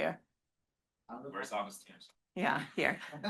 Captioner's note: student speaks faintly